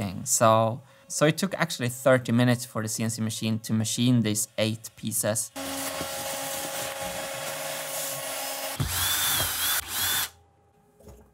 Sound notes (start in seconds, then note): 5.5 vacuum machine noises; 8.8 drill whirring